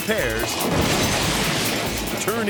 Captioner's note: wall crashing